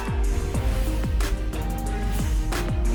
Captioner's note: cheering